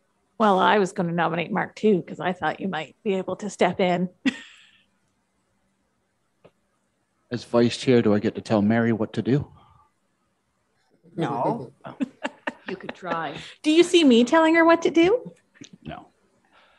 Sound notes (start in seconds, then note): 11.8 laughing